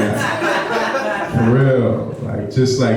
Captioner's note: audience laughs